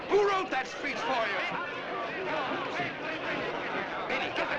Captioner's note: audience exclaiming